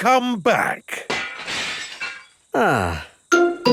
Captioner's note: glass shatters